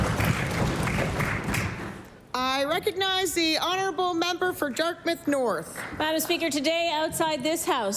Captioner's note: applause